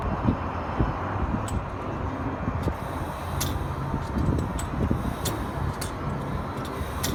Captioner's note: gas pump clicking